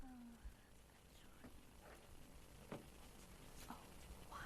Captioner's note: whispering